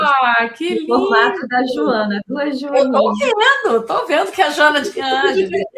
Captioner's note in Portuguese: risadas